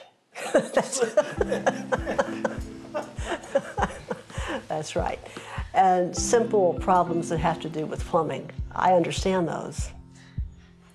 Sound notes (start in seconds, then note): 0.4 laughs